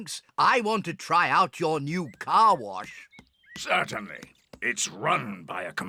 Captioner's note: beeps